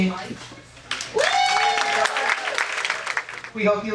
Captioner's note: audience applauding